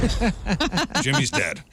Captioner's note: laughing